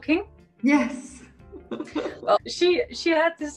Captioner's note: chuckles